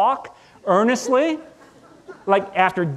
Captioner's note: audience laughing